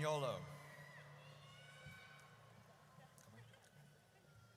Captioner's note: audience cheers